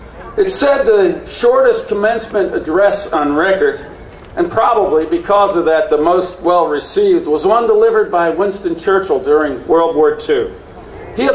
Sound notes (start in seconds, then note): none